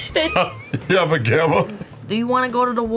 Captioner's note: laughs